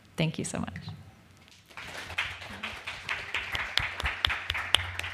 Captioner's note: applause